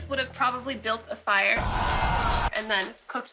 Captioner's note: war noises